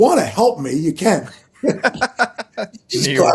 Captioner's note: laughing